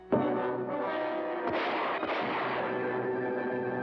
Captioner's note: sudden dramatic music; two gunshots; dramatic music